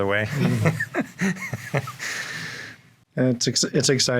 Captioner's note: chuckling